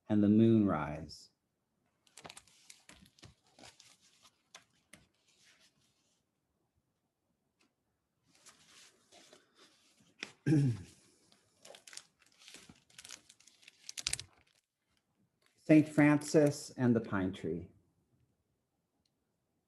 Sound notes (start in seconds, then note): 10.4 clears throat